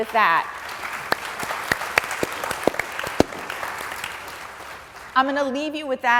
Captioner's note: applause